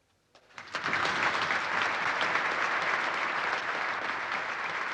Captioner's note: audience clapping